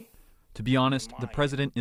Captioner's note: through translator